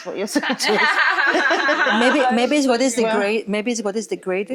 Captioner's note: all laughing